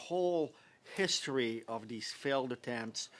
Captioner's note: speaking French